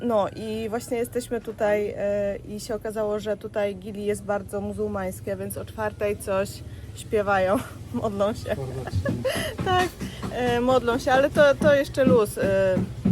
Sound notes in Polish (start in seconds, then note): 7.5 śmiech